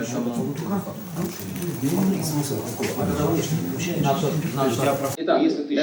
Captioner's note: conversation of workers in the background